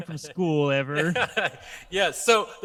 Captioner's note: laughs